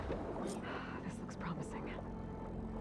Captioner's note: exhale